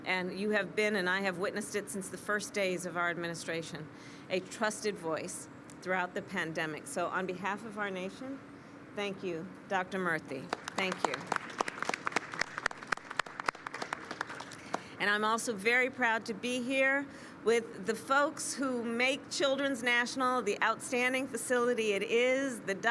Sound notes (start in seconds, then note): 10.4 applause